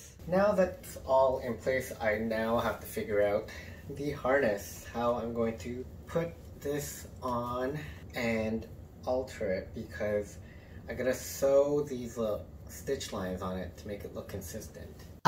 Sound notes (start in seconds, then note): none